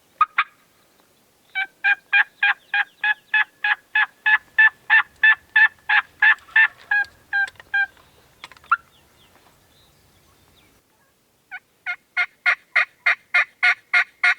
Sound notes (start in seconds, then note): 4.2 turkey call; 6.6 distant turkey gobbling; 11.7 turkey call